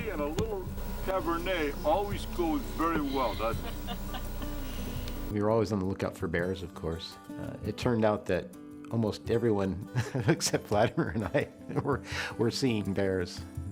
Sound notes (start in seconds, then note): 3.0 laughter; 9.9 laughter